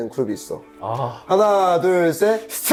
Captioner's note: sighs